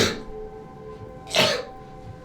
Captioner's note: coughs